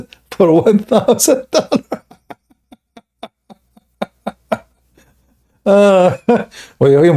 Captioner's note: Ketawa